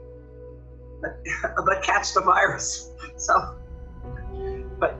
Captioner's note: laughs